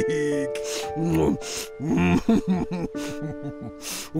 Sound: crying and munching

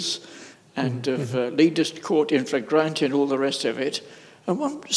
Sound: mutters

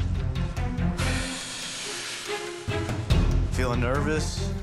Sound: exhales

